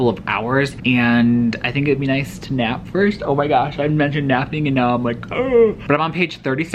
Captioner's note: yawns